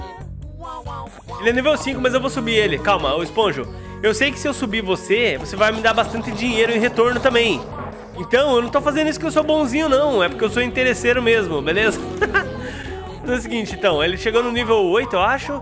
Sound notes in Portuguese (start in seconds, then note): 12.1 risos